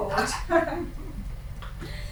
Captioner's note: laughing